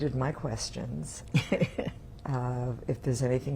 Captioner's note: laughing